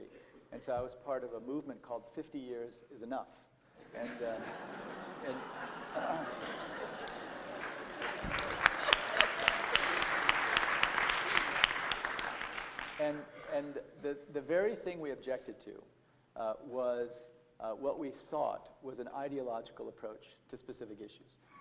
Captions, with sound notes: And so I was part of the movement called "50 Years Is Enough." [LAUGHTER, APPLAUSE] And, the very thing we objected to, was what we sought was an ideological approach to specific issues.